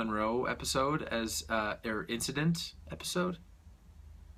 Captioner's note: stutters